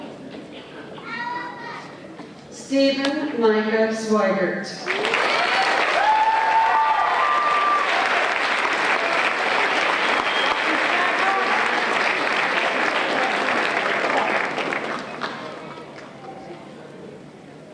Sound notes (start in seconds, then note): 4.8 applause